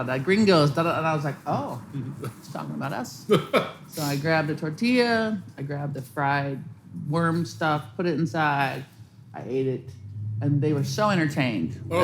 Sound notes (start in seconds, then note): 3.3 chuckles softly